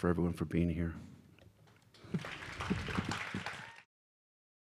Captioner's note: applause